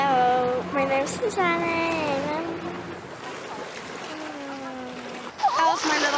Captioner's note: waves splashing